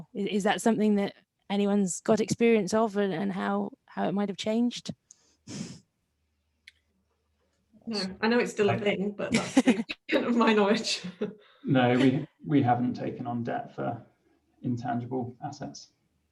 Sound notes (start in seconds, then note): 11.7 laughs